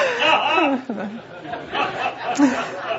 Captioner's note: laughter